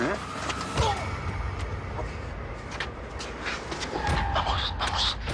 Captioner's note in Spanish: Quejido